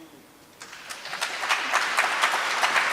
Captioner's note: applause